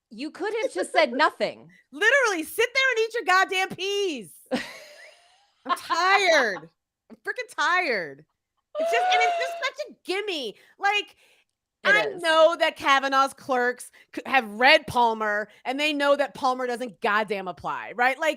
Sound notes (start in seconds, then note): 4.7 laughing